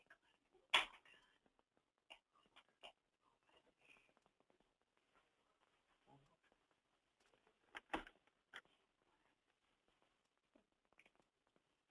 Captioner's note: long pause; continuing long pause